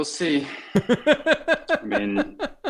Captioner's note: laughing